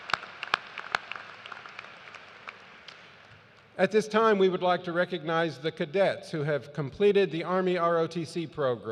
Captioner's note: cheers and applause